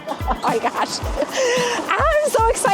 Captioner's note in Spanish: risas